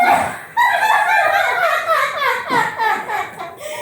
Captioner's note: shrill laughs